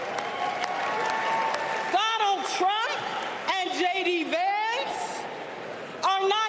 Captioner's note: applause